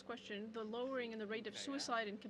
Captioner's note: speaking French